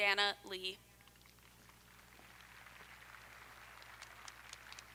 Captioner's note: audience applauding